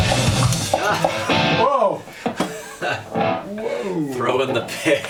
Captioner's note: laughs